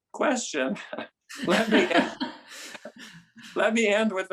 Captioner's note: laugh